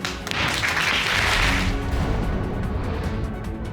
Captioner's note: audience applauding